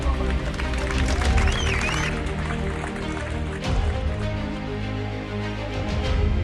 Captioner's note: passengers whistling; passengers applauding